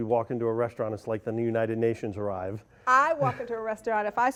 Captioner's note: laughs